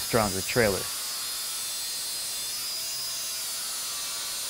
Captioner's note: saw grinding